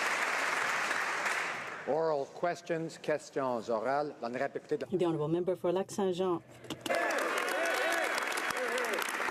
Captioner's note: speaking French